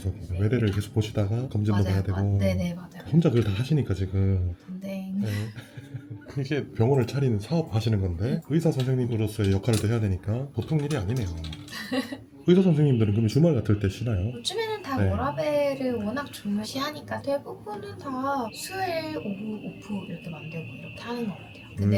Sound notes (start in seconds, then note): 11.7 laughs